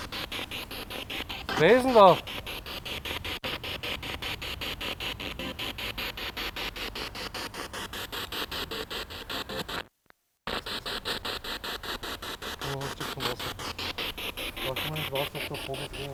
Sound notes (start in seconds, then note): 3.2 sound of the Spirit Box in the background